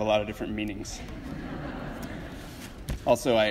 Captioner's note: audience laughs